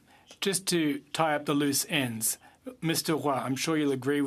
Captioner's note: speaking French